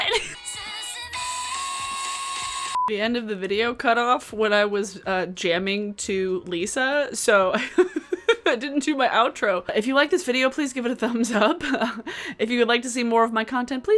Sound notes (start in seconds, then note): 7.6 laughs